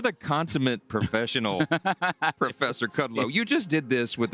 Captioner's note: laughter